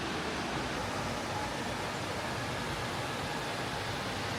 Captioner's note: water whooshing